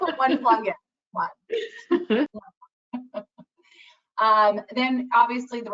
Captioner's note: laughs